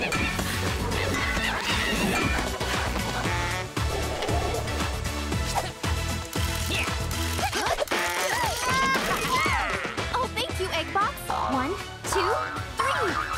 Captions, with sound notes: (grunting) (laughing) - Oh, thank you, Eggbots! One, two, three!